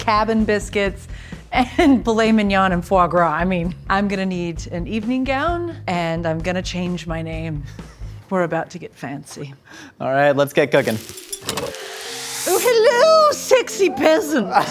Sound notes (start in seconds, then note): 10.7 sand fizzing; 13.6 laughing